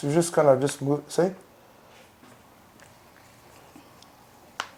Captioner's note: elbow cracks